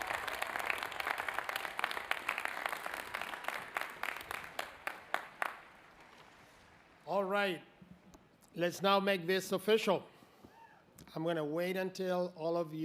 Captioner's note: applause